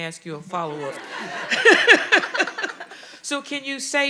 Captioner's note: audience laughing